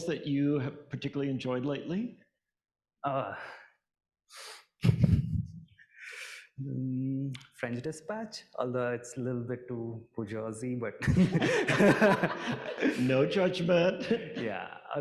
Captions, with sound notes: that you particularly enjoyed lately? - "French dispatch," although it's a little bit too jersey, but- (laughs) (audience laughing) - No judgment. - Yeah.